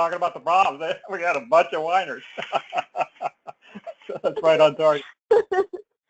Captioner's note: laugh